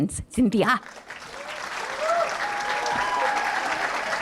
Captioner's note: applause